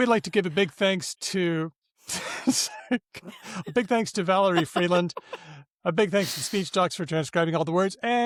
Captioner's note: laughter